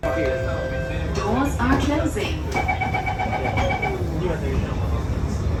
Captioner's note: doors are closing